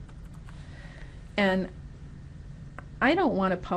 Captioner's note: typing